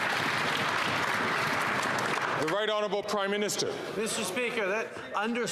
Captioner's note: some Applause